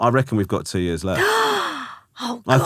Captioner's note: gasping